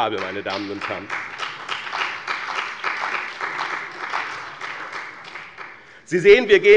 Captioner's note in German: Beifall bei dem BÜNDNIS 90/DIE GRÜNEN und der CDU